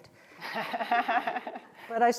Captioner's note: laughter